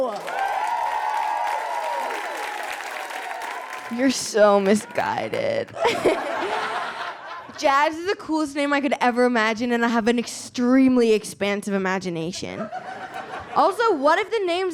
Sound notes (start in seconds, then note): 0.0 audience cheers and applauds; 5.7 audience laughs